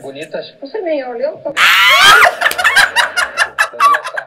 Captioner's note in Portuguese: riem